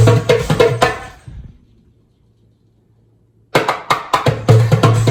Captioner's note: music stops